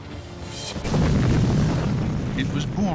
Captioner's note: explosion